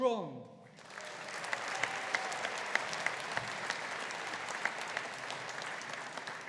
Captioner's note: audience applauding